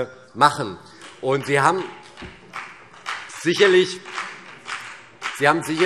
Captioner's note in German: Vereinzelter Beifall CDU und BÜNDNIS 90/DIE GRÜNEN